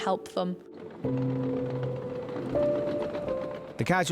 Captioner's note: tractor purrs